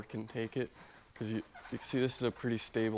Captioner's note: boat squeaking